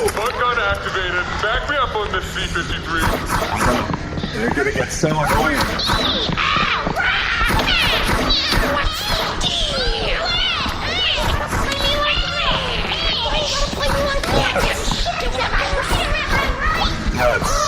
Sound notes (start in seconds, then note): 14.4 cawing